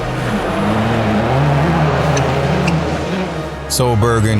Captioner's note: car revs